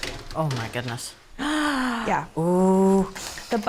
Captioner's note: gasps